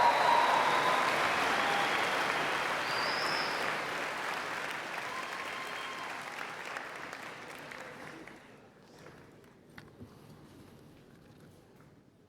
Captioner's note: cheers and Applause